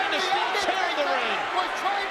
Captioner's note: overlapping chatter